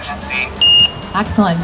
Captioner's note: phone beeps